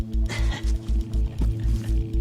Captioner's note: chuckles